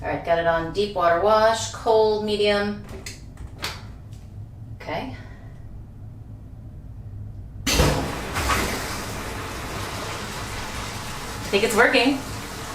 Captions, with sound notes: Got it on deep water wash, cold, medium... (Washer starts) I think it's working...